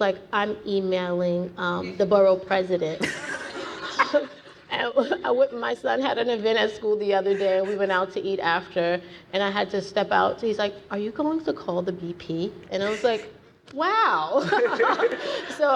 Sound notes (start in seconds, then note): 3.0 audience laughing; 14.4 everyone laughing